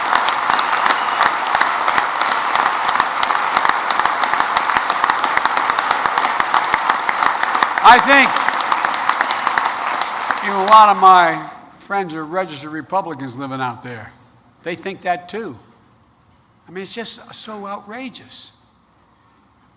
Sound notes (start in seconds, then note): 5.7 applause